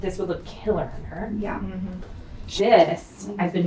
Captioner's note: woman's Voice